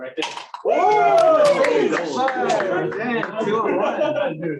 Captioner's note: cheers and applause